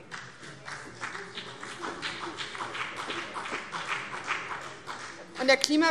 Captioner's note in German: Beifall BÜNDNIS 90/DIE GRÜNEN